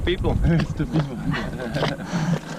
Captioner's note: laughs